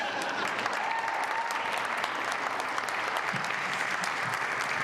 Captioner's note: laugh; applause